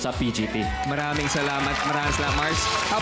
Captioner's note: applause